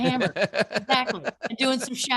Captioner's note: laughing